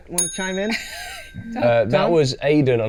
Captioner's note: ringing bell